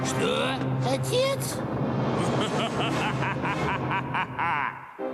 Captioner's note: laughing